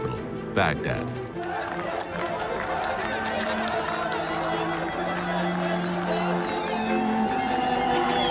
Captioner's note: chanting and cheering